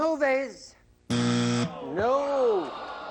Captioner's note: buzz